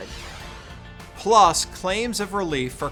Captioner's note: graphic wooshes